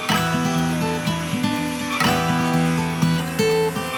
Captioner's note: upbeat music; saw buzzing